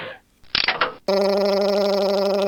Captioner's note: click